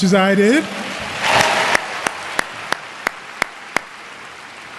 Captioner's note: applause